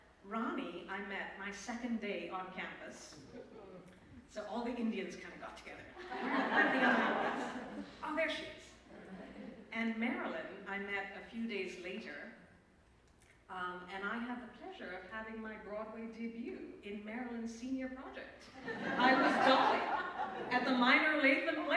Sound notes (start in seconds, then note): 6.0 laughter